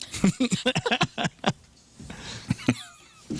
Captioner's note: laughing